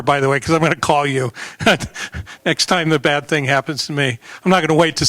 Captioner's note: laughter